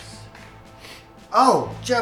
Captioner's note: sniffs poopy stepper